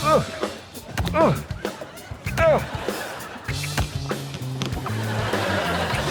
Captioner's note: grunting